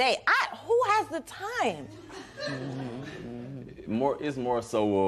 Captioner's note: laughter